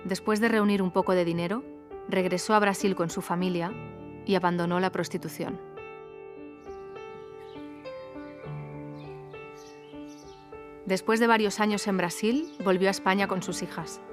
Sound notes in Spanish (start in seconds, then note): 2.0 música agradable; 2.0 sonido de pájaros